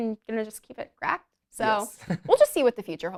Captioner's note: chuckles